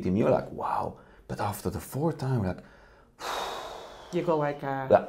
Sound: sighs

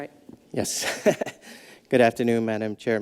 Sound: laughs

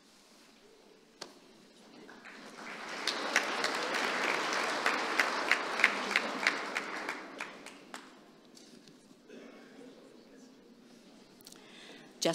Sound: applause

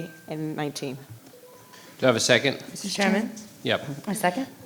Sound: none

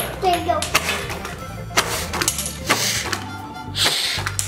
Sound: female blowing; playful music; cards clinking

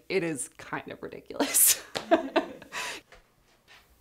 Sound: laughs

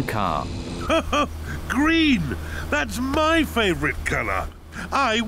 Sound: laughs

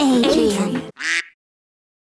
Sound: quack

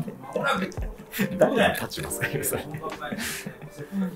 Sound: laughing

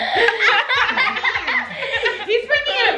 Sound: laughs

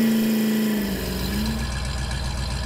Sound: engine sound

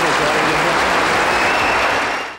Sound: audience cheers and applauds

